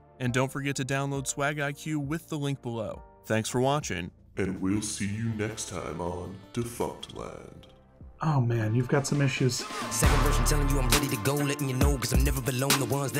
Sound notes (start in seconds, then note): 4.9 deep Voice; 8.9 rap Music